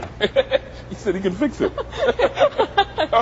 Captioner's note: laughs; man and woman laugh